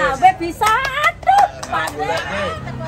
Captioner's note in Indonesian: tepuk tangan